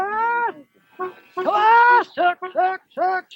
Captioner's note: yelling